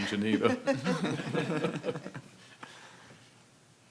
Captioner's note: panel chuckling